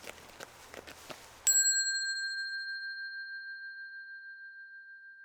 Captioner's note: bell dinging